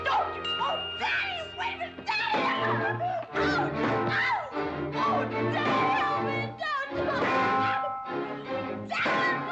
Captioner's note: Becky screaming and yelling